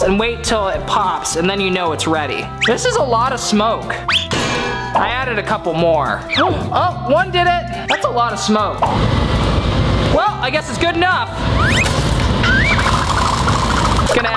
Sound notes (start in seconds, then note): 4.1 whistling metal dropping; 6.4 gasps; 12.4 whistling, gurgling